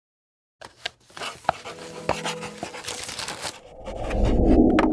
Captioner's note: pencil scratching; air whooshes; gentle music